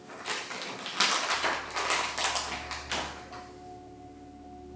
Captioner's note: bag crinkles